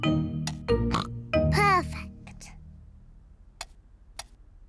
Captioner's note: snorts